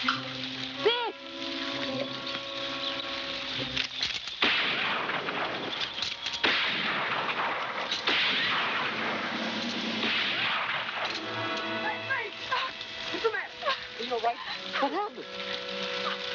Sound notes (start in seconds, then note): 0.1 gun shots; 9.3 chirping; 11.5 yelling